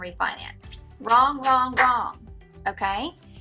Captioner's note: clapping